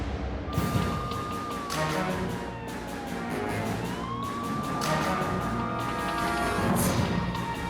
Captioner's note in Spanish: Sirenas de policía